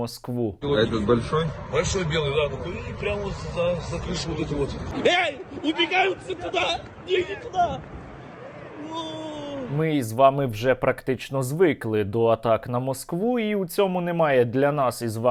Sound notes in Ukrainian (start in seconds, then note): 4.8 кричать